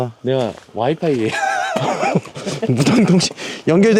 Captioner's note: laugh